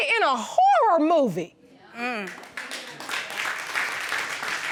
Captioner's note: exclaiming in agreement; audience applauding